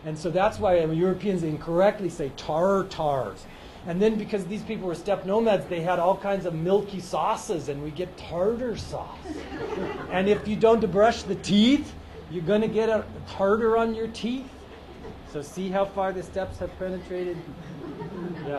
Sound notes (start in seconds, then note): 9.0 laughs